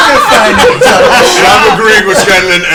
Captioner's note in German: Gelächter